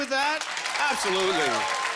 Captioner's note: applause